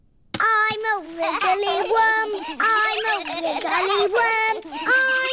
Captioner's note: snorts; all laughing